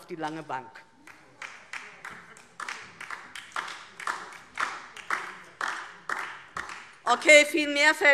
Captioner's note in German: Beifall DIE LINKE